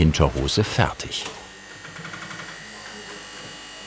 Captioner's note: whirring, clattering